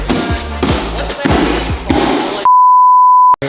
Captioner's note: boxes thudding; knocking on cardboard; static beep